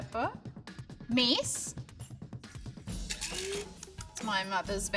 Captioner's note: spice grinder whirring